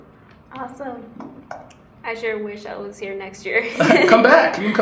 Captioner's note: laughs